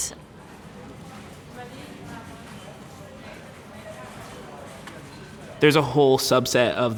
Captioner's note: people chattering indistinctly